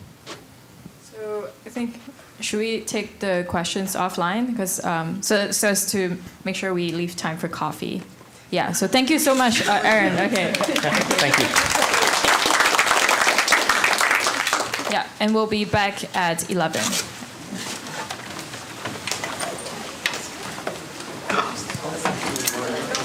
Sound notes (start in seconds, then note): 14.9 applause; 22.8 background chatter